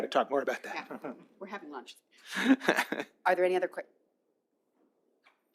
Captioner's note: laughter